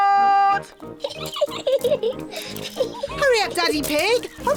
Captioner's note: giggling